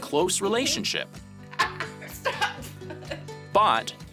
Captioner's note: laughing